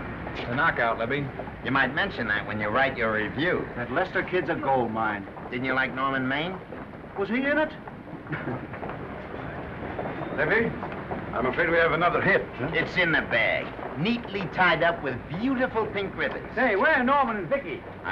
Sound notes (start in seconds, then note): 8.1 chuckles